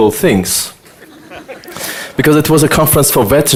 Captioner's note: audience laughter